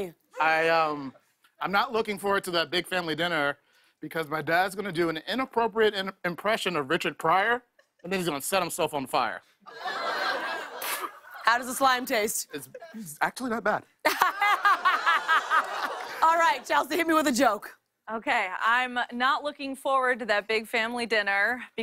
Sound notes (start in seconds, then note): 10.7 light laughter; 14.0 laughter